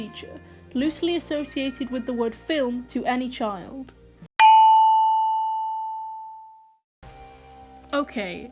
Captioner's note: ding